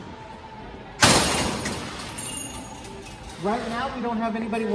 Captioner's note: door clanks